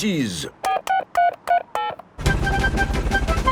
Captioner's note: dialing